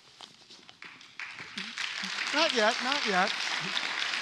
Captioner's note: applause